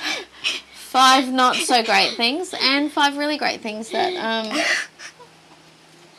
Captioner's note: laughs; laughs more